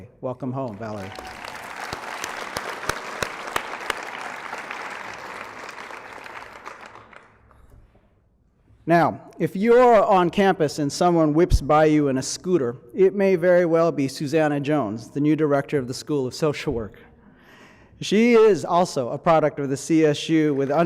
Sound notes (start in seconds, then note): 2.3 applause